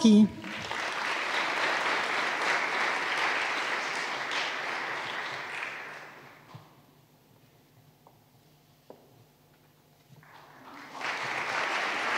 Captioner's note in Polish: oklaski